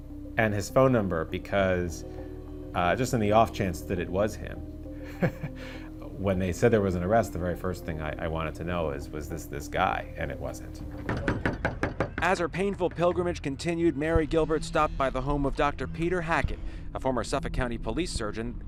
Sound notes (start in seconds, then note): 5.0 laughs; 10.9 knocking on door